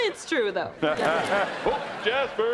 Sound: laughing

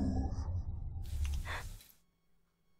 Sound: gasp

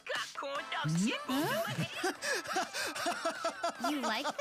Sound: laughing

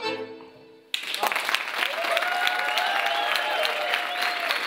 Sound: applause

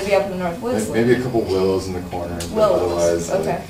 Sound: voiceover

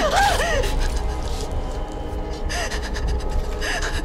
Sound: sobbing

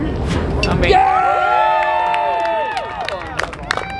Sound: applause

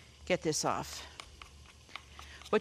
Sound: spoons clinking

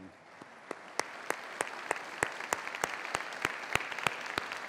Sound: applause

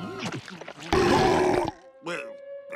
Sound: belching

